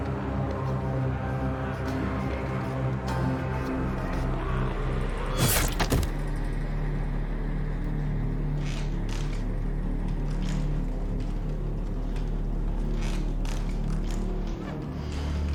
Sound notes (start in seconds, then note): 0.1 ominous music; 5.4 weapons scraping; 5.5 body thudding; 12.3 dark tense music